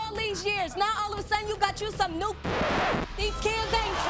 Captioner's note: record scratches